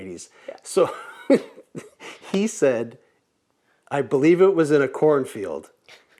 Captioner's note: laughs